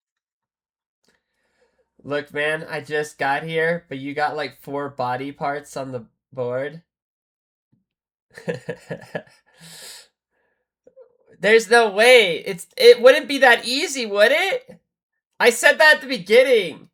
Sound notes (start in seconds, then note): 8.3 laughter